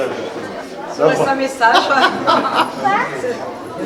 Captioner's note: laugh